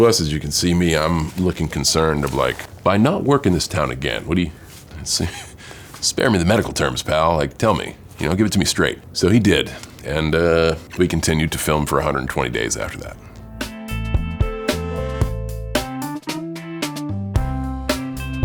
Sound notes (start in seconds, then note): 5.2 chuckling nervously; 13.4 bright rhythmic music